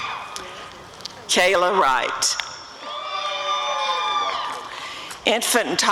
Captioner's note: audience cheering